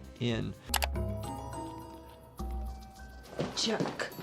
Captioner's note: pensive music; mouse clicking; footsteps plodding